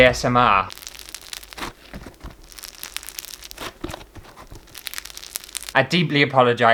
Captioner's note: crackly Crunchy Sounds